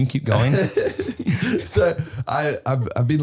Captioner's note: Harry laughing